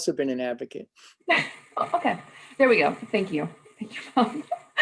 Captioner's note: laughter